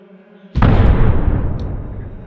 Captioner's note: loud impact